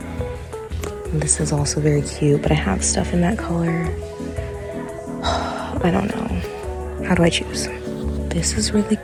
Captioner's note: sigh